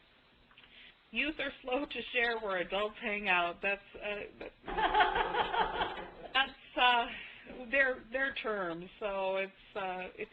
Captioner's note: laughter